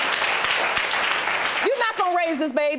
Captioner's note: audience applauds